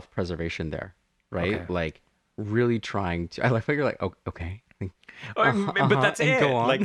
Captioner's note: laugh